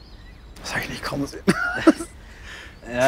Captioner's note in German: lacht verzweifelt